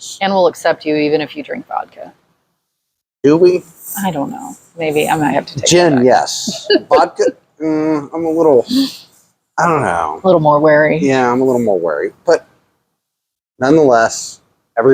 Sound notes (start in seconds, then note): 5.7 laughs